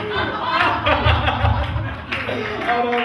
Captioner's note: the audience laughs